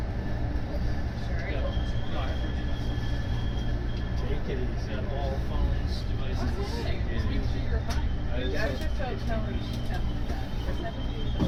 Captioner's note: Acela Express bakes squealing